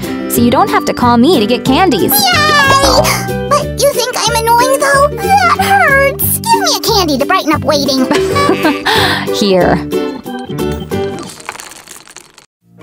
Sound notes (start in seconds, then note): 8.0 laughing